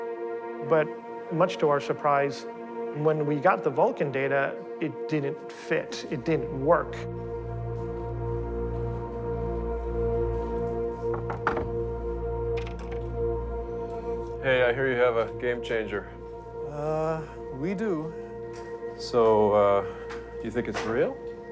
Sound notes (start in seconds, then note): 7.2 suspenseful music; 11.0 hand knocking